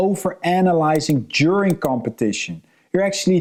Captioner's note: mouse clicking